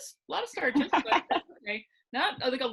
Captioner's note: laughing